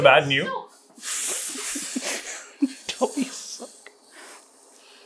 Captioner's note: laughing